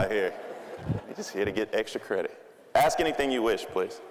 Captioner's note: audience laughing